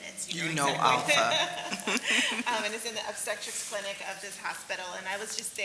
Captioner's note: laugh